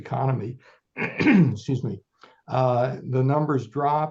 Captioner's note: clears throat